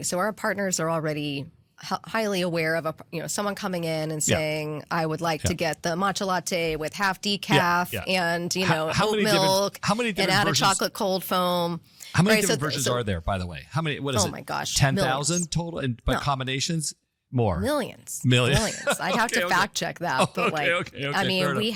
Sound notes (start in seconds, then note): 18.4 laugh